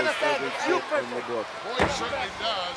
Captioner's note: Master Fuji shouting in foreign language